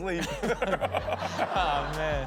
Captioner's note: audience laughs; chuckles